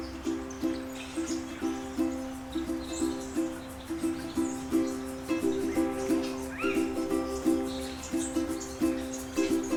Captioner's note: birds